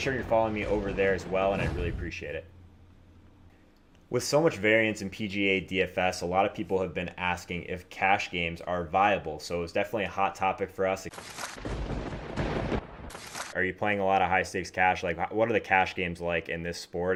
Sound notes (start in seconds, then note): 11.1 lightening; 11.6 thunder